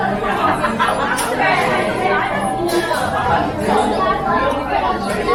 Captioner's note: 餐廳裡全是韓文聊天的聲音